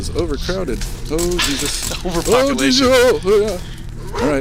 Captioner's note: laughing